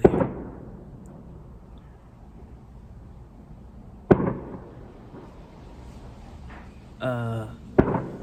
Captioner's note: loud bangs in the background